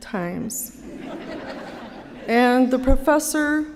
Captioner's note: laughter